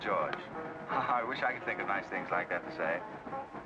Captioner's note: chuckles